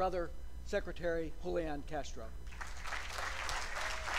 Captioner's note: applause